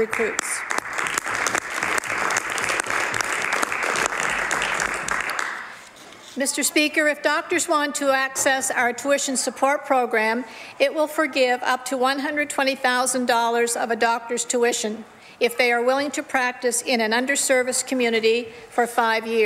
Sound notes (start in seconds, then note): 5.2 some Applause